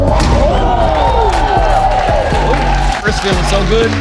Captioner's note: spectators applauding